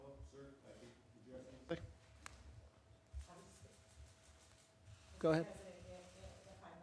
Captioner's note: off-mic